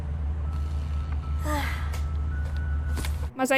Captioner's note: sighs